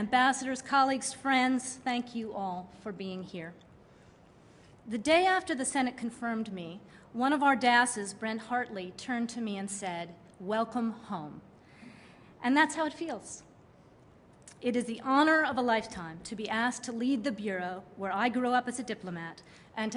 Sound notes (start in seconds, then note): none